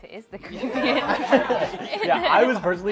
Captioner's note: laughter